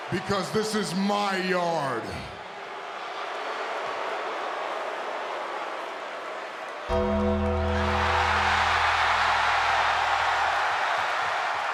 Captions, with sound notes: Because this is my yard. (audience jeers) (ominous music) (audience cheers)